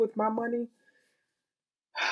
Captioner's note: sigh